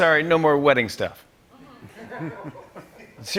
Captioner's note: laughter